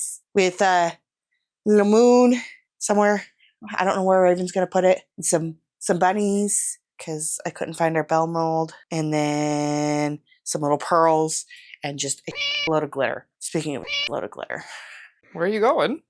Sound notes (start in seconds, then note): 13.8 meow